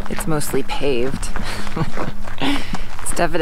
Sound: laughs

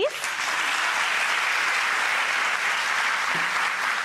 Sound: audience applause

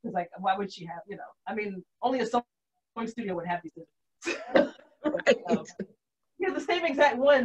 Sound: laughs

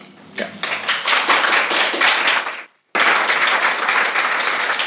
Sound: audience applauds

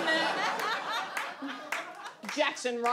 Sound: audience laughs

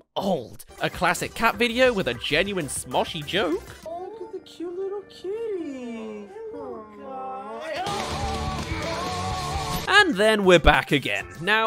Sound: awww-arrrg!

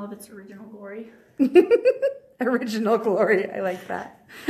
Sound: laughs

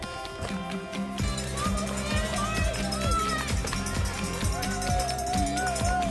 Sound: cheering

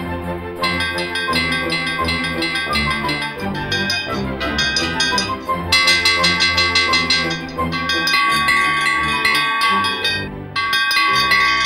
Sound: ding ding ding ding ding ding ding ding

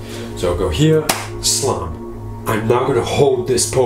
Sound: claps hands together

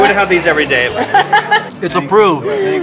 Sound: laughing

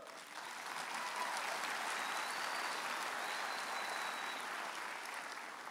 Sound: audience applauding and cheering

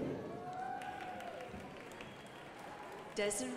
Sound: crowd applauding

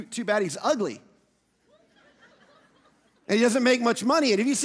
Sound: audience laughing

